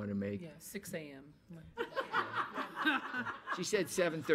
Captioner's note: everyone laughing